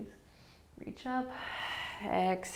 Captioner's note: exhaling